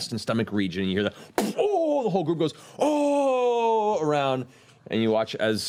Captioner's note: pained moan